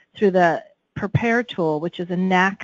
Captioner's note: none